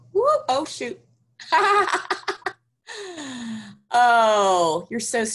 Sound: laughs

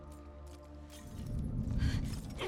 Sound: none

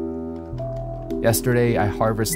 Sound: keyboard clacking

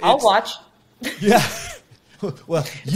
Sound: chuckles

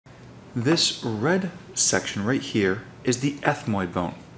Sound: voiceover

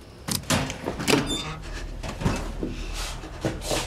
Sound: metal door creaking

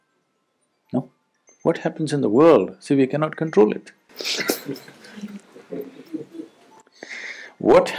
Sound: laughs

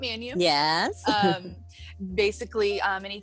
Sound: chuckles

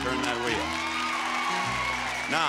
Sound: audience applauding

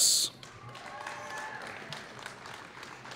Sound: applause

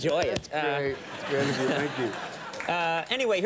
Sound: crowd laughs

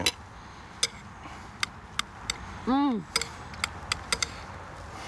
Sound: definitely clicking

